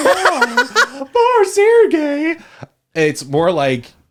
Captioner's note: laughs